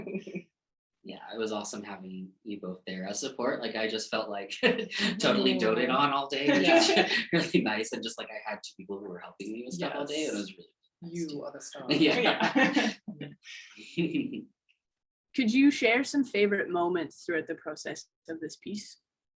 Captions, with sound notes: - Yeah. It was awesome. Having you both there as support. Like I just felt like totally doting on all day. Nice. And just like, I had two people who were helping me with stuff all day. - Yes. You are the star. - Yeah. (laughs) - Could you share some favorite moments throughout the process of this piece?